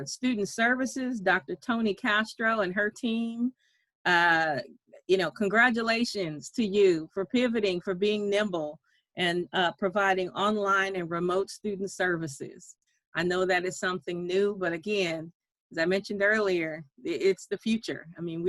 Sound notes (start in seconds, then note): none